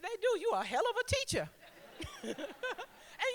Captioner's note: laughter